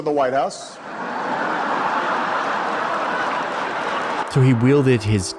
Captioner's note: attendees laughing